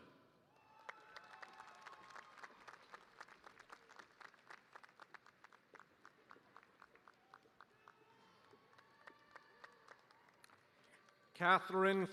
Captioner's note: cheers and applause